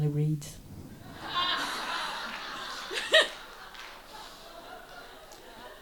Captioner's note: audience laughs loudly